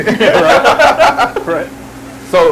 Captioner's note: both laughing